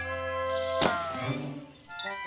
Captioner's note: whizzing